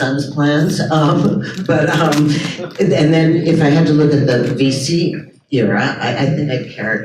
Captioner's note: chuckles